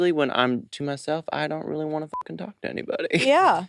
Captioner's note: beep